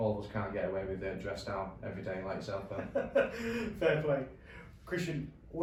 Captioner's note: laughs